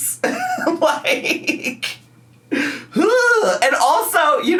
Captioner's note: laughs; groans